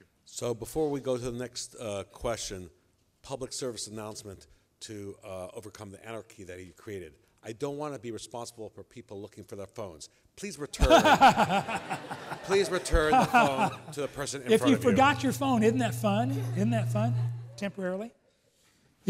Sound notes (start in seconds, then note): 10.8 laughing